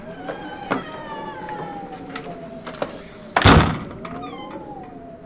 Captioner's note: wind whistling